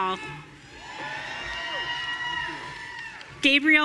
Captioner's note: audience cheering